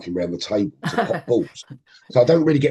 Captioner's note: laughing